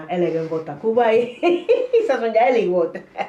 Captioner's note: chuckles